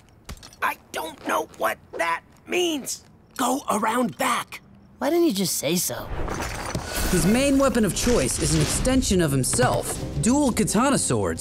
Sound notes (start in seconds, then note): none